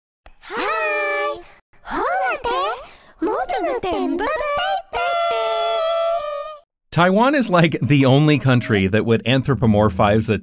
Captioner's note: weird gibberish that isn't in any real language